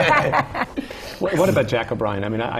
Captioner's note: laughter